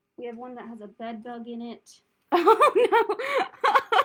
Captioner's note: laughter